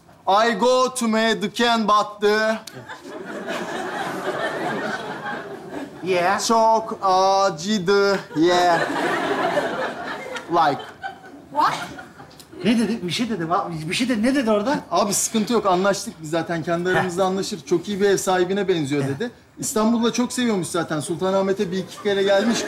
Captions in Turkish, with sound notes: I go to me the can but. (Kahkaha sesleri) -Yeah! -Çok acıdı yeah. Like. -What? -Ne dedi? Bir şey dedi. Ne dedi orada? -Abi sıkııntı yok anlaştık biz zaten kendi aramızda anlaşırız. Çok iyi bir ev sahibine benziyor dedi. İstanbul'u da çok seviyormuş zaten. Sultanahmet'e bir iki kere gelmiş.